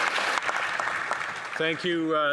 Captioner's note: applause